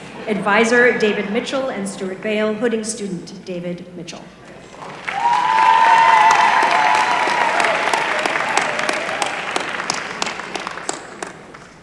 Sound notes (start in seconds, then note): 4.8 applause